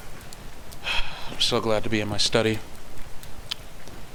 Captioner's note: sigh